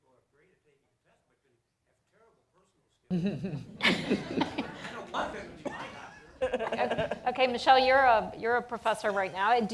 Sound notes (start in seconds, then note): 3.2 laughter